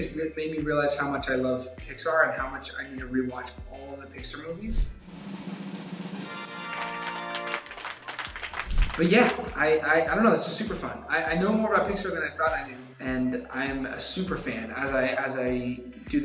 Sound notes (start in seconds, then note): 4.7 drums rolling; 6.2 applauding